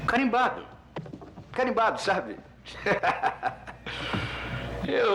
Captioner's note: laughing